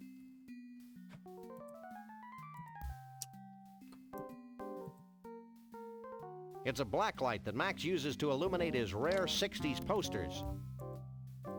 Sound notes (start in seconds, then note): none